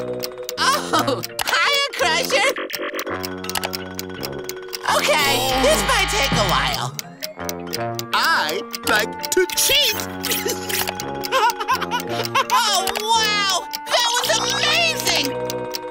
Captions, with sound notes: Oh! Hiya, Crusher! Okay, this might that a while. I like to cheat. [laughs] Oh, wow! That was amazing!